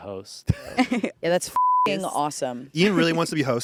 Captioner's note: beep